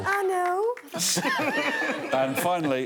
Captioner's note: laughter